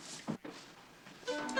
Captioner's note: door opens